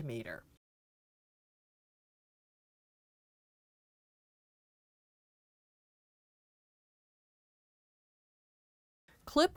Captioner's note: no Sound Present